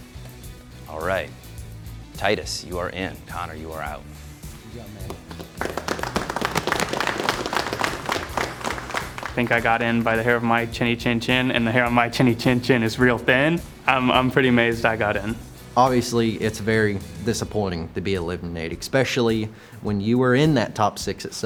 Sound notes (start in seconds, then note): 5.0 applause